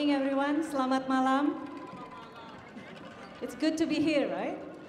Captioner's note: speaking in Indonesian